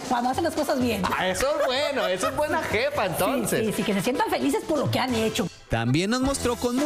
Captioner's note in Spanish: risas